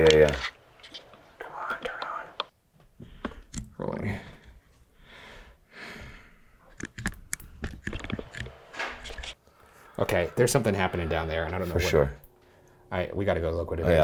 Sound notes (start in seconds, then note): 8.9 object thuds